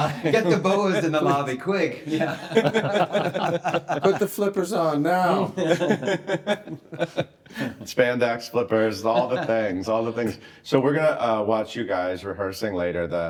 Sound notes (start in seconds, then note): 2.1 everyone chuckling; 5.5 everyone giggles